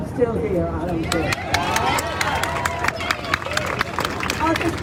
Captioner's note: crowd cheering